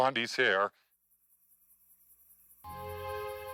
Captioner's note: crickets chirping; soft dramatic music